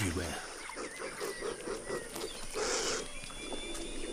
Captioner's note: snorting